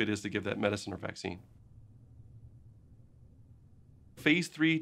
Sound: silence

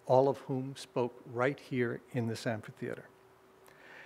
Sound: none

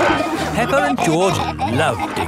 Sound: peppa and george laughing

